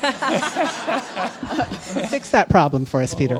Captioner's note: laughter